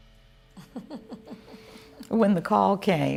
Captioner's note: laughing